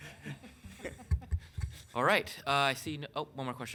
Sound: laughing

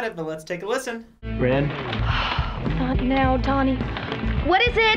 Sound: sighs

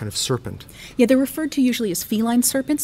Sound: voiceover

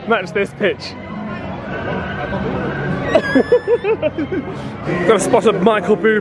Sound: laughing; whistle note

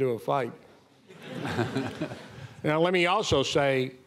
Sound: audience laughing

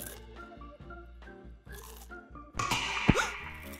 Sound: crunching

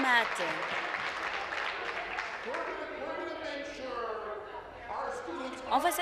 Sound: applause

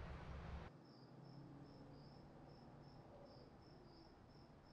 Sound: faint cricket noises

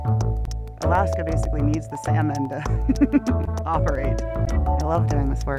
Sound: laughs

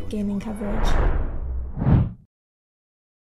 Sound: logo swoosh

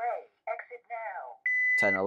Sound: beeping

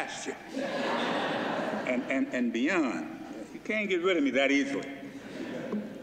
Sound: laughter

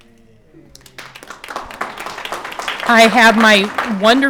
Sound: audience applauding

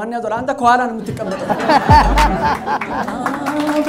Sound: laughter and applause

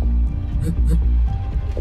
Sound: quick phone vibration

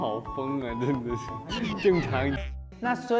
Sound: haha

